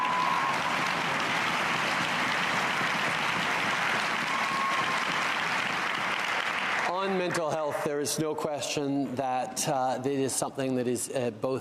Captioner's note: cheering and Applause